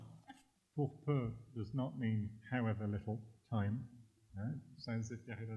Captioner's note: french